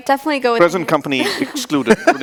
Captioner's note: laughing